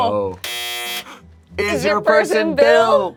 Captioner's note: buzzer buzzes